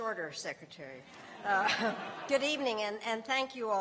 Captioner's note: laughter